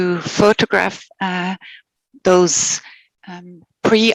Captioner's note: non-english speech